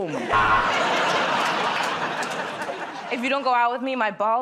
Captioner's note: buzzer